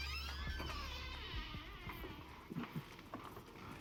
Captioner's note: door creaking